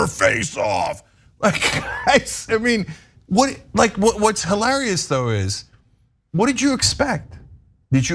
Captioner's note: laugh